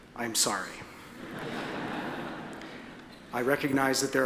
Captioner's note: audience laughs